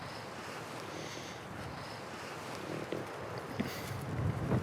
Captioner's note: heavy breathing